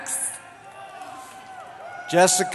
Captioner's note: cheering